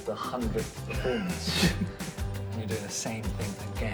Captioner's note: laughs